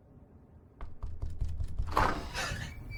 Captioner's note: more knocking; door squeals